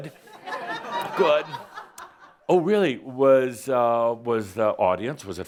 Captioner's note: a few chuckles